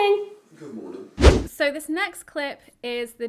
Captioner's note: whooshing sound